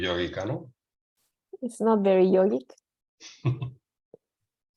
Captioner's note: laugh